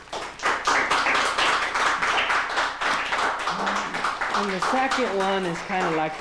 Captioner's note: applause